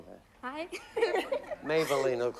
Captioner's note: laughs